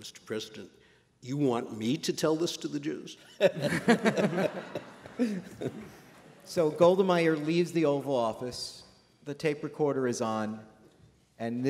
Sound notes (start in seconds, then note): 3.3 laughter